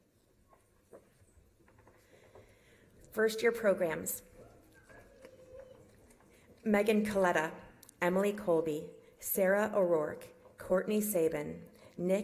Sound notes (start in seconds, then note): none